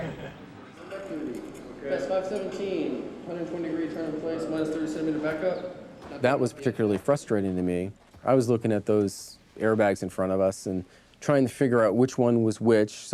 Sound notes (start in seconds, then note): 1.0 faintly speaking